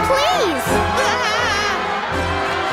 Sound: screaming

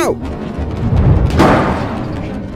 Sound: bang

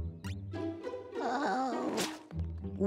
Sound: groaning

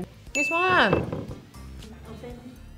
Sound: aggressively thumps table

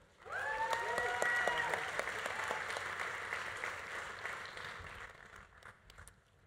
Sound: audience cheering; audience applauding

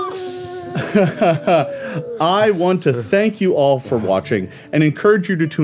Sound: laughing

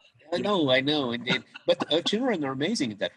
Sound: laughs

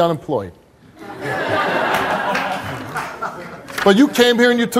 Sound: audience laughs

